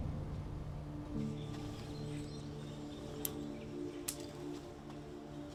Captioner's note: birds chirping